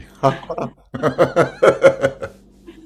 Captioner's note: laughter